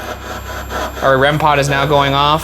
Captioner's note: REM-Pod beeping